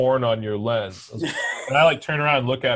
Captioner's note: laughs